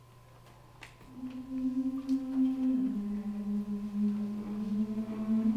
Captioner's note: humming